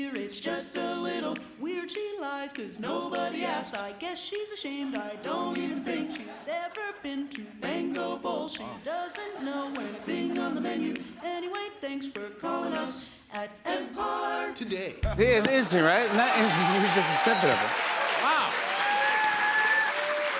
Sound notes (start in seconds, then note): 15.4 cheers and applause